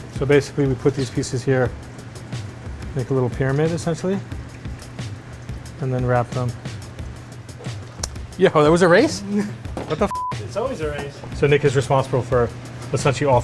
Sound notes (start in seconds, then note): 10.1 beep